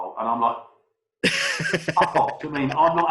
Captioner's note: laughs; murmurs